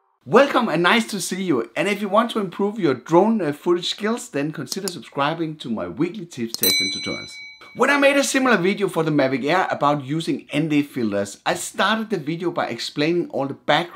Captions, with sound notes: Welcome and nice to see you, and if you want to improve your drone footage skills, then consider subscribing to my weekly tips, tests, and tutorials. "(bell dings)" When I made a similar video for the Mavic Air about using ND filters, I started the video by explaining